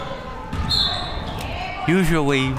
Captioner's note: whistle